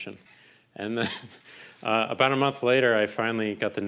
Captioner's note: chuckling